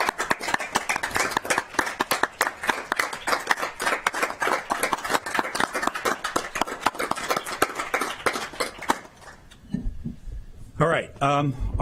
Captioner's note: clapping